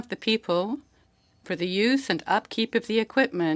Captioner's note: speaking French